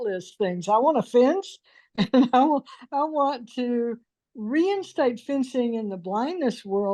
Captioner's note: laughs